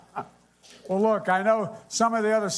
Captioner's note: laughter